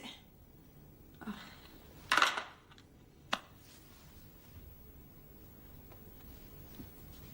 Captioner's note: Louise sighs; phone slams in cradle